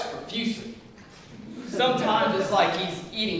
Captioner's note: laughter